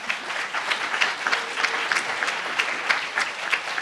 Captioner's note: laughs; applauds